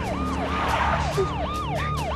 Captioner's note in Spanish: Frenazo